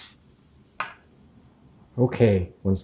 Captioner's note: click